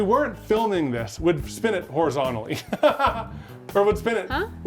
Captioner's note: laughs